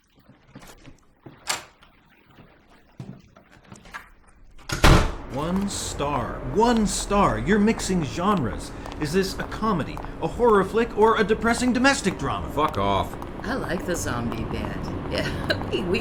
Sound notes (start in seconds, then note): 1.3 door opening; 4.4 door closing